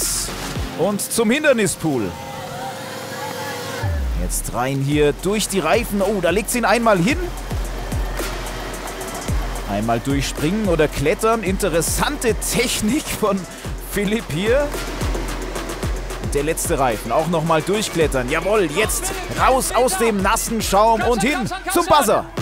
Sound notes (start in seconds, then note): 1.8 Jubel, Rufe